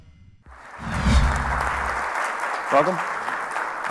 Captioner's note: applause